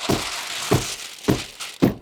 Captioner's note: paper crunching; tool knocking